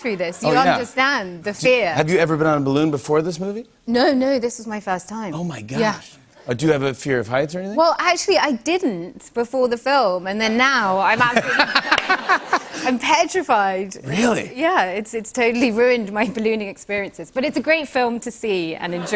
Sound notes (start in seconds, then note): 11.1 laughter; 18.8 laughter